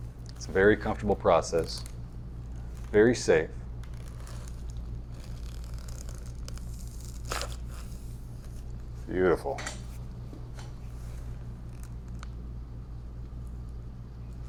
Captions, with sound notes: It's a very comfortable process, very safe. (neck cracking) Beautiful.